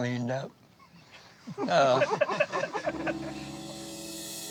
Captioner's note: laughter